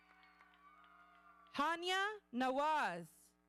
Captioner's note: audience cheering